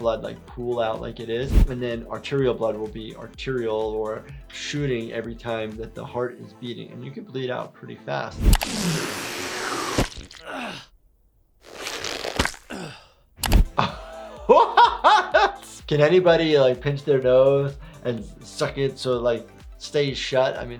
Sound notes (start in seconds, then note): 8.3 air whooshes; 11.6 flesh squelches; 13.8 laughs